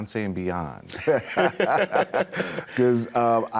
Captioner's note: both laughing